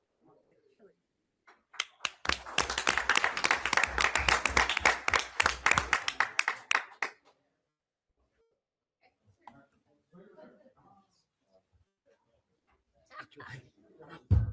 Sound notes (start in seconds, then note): 1.7 everyone applauds; 11.2 people chuckling